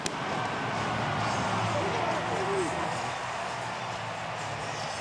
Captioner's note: cheering; firecrackers bursting; upbeat music